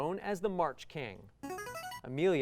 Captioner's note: buzzer